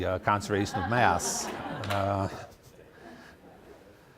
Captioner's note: laughter